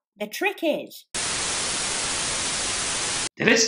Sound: static fuzzing

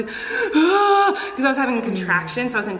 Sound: Colleen moans

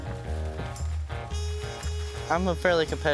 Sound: corn stalks rustling

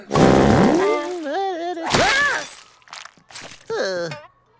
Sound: humming, screaming, groaning

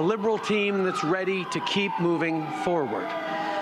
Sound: speaking French; siren

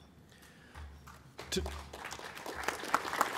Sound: applause

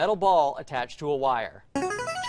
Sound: buzzer plays

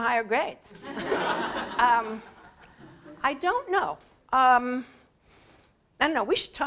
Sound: laugh

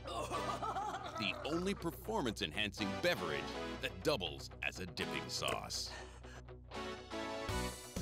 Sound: voiceover

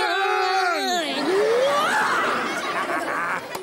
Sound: chuckles

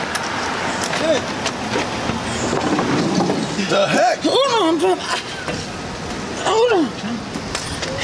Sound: indistinct chatter

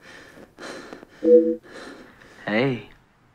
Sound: device rings

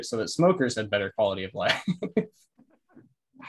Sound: laughs

